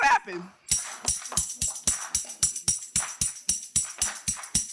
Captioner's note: audience clapping